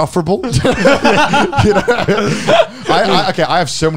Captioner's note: laughing